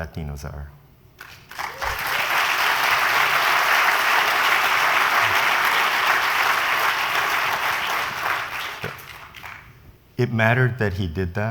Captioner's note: applause